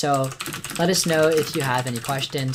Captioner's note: typing